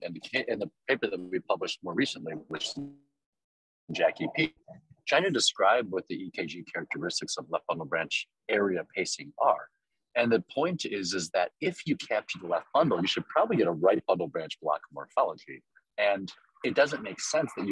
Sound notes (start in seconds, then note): 1.8 audio cuts out